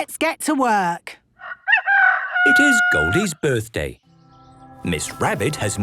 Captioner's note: rooster crowing